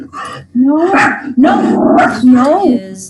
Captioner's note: dog barking